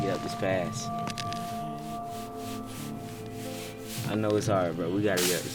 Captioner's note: quietly mumbles